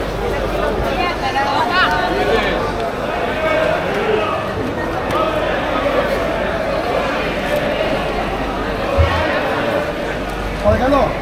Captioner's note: crowd chattering